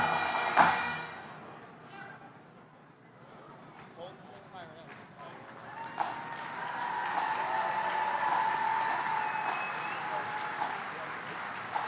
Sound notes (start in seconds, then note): 4.6 applause; 8.3 steady drumming music